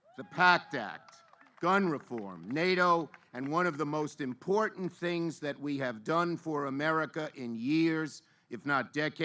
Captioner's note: applause